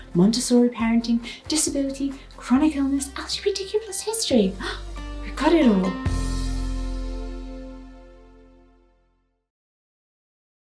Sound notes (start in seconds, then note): 4.5 gasps; 6.7 gentle music